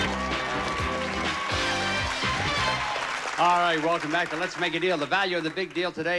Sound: audience applauding

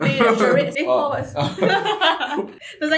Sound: laughs

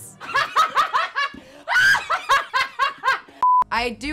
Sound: laughter

